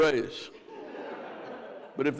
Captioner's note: crowd laughs